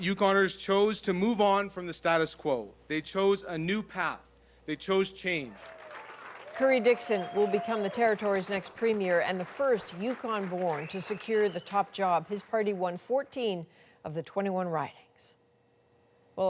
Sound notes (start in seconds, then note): 9.1 applause